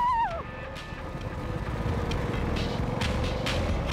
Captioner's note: engine puttering